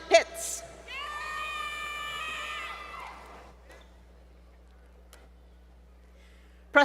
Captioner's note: cheers From Audience